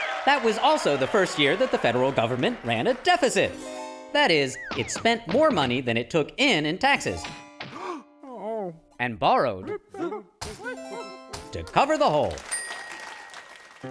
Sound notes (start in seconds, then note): 7.7 gasps, groans